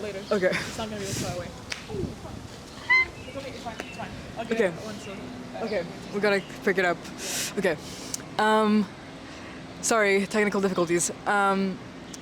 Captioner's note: panic sounds